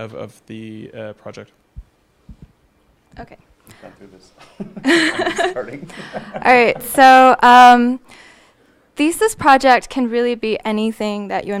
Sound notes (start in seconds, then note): 4.4 laughing